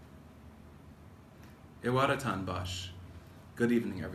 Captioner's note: non-english speech